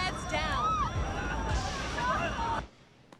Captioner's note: screaming and crying